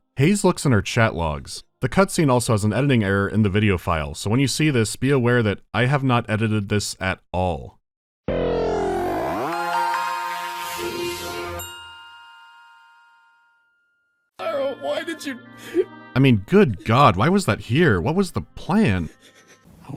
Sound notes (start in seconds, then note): 8.3 startup jingle; 14.4 sob